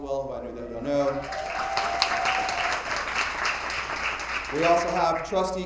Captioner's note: attendees applauding